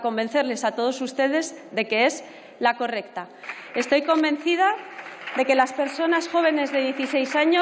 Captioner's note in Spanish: Aplausos